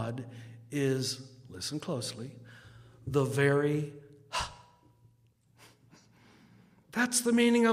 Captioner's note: exhales sharply